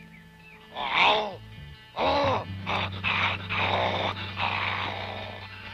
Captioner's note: grunting